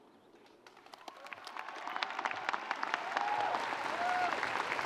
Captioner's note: audience applauding; students cheering and screaming